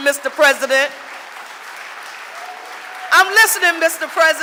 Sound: audience applauding

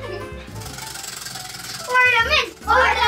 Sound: wheel spinning

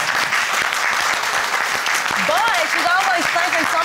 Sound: audience applauding

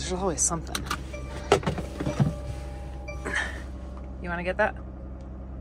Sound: car beeping

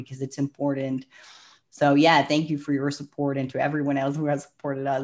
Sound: breath

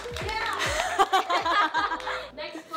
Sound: clapping; laughs

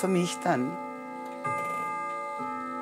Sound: grandfather clock bell

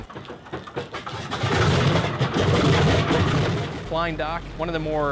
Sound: engine chugs; engine revs

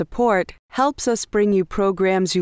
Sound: voiceover

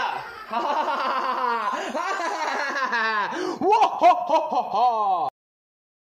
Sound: fake laughter

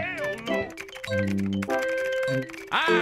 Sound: keyboard sounds

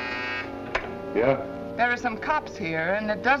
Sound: phone buzzing

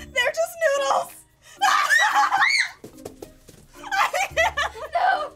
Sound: screaming

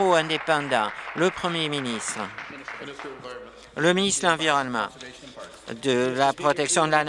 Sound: applause

